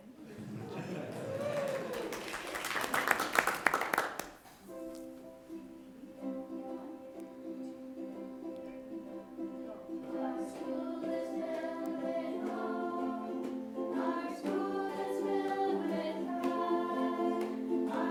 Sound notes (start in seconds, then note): 0.0 audience chuckles; 0.3 people clap; 0.4 people cheer; 5.4 upbeat ukulele music